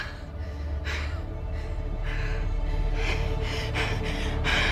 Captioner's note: Hauser breathing heavily